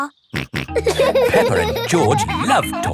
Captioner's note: laughing; snorts